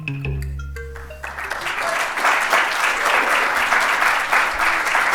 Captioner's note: applause